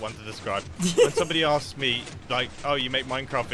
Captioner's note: giggles